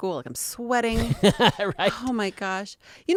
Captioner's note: laughing